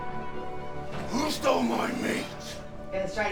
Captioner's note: man, gruffly